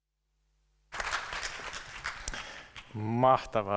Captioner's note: applause